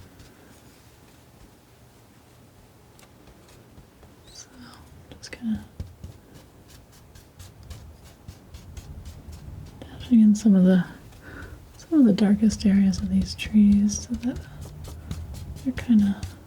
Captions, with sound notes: So, just gonna, (scratching) dash in some of the darkest areas of these trees so that you're kinda,